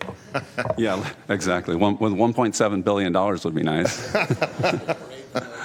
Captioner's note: laughter